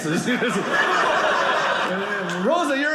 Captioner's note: audience laughing